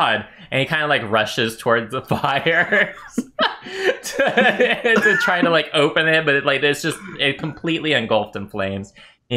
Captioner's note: laughter